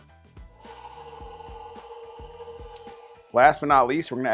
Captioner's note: machine whirs